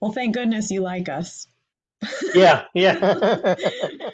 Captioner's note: laughs